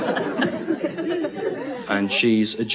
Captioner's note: laughter